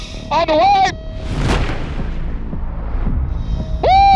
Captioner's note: cannon blasts; dramatic music